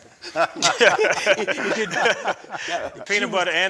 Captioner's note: group laughing